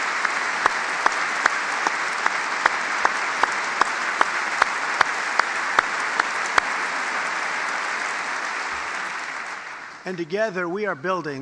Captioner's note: applause